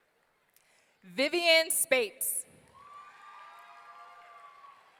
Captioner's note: audience cheering